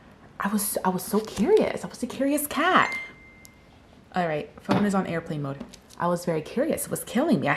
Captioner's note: phone dings